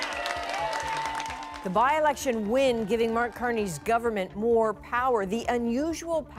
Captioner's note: cheers and Applause